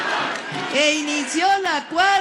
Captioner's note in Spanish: aplausos